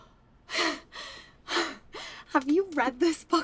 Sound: Angela pants

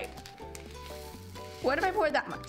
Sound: beads dropping

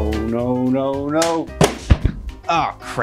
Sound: books thudding

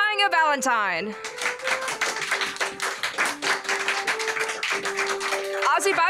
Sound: applause, continues under

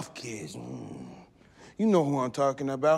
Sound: grunting

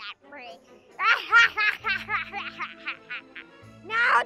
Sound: maniacally Laughing

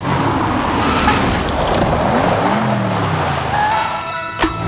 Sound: car engines rumbling

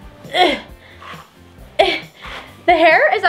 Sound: grunting

